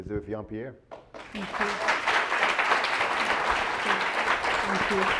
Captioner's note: audience applause